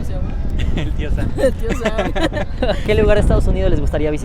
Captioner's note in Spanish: risas